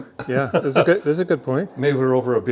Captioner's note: laughing